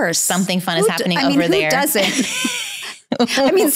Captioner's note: laughs